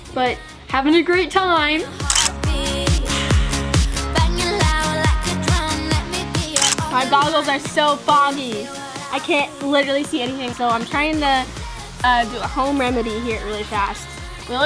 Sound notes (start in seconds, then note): 1.9 upbeat pop music; 2.0 camera clicking